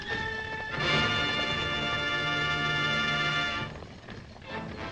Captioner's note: horses galloping